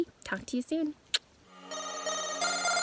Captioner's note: kissing; upbeat techno music